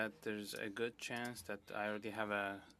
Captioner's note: speaking French